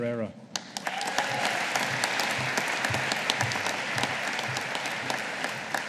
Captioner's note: audience applauding